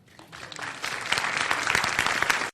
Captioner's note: applause